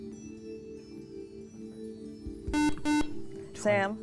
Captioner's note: whispering; buzzer